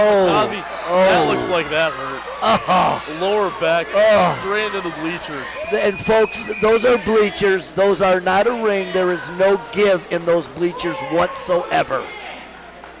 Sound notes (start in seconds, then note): 2.5 groans sympathetically